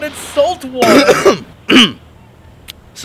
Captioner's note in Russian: неловкий кашель